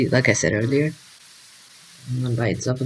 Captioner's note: television static